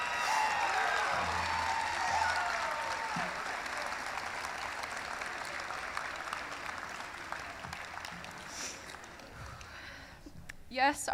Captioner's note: applause; cheering